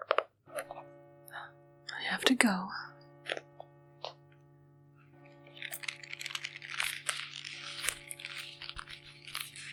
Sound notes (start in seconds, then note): 0.6 bell rings